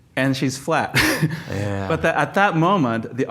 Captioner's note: laughs